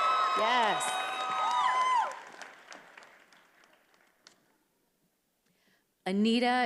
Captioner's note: attendees applauding and cheering